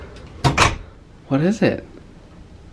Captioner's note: door clicking